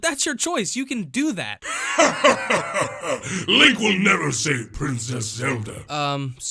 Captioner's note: evil Laughter